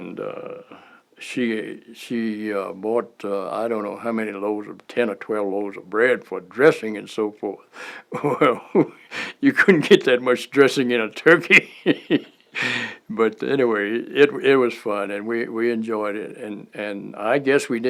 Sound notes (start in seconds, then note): 11.4 laughter